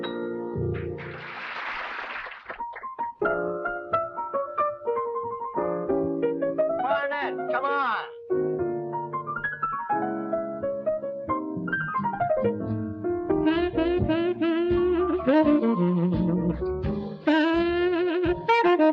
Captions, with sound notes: (audience applauding) (bright jazzy music) - Clarinets, come on! (smooth jazzy music)